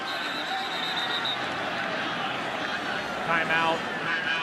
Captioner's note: whistle